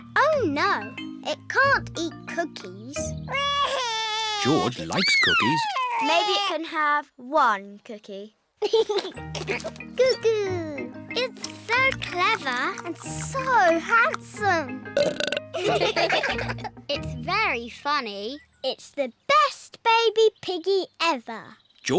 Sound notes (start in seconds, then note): 4.4 bawls; 8.6 giggles; 14.9 burps; 15.5 all laugh